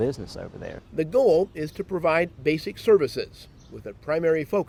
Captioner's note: voiceover